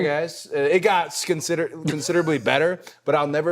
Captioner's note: The Undertaker laughing